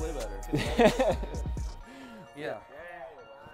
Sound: laughs

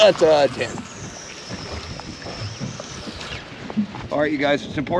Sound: reel spinning

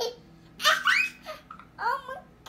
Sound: laughing

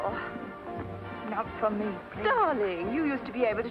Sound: groggily

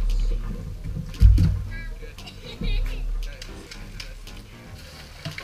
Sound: upbeat music; girls laughing; wood thumping; junk spilling

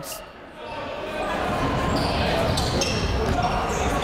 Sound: chatter

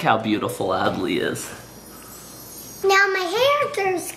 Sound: chimes twinkling

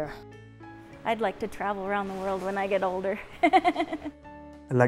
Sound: laughs

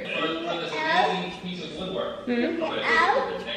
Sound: baby talk

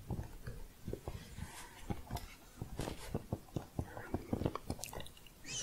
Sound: typing

